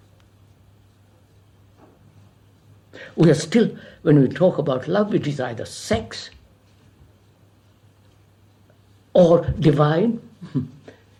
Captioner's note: laughs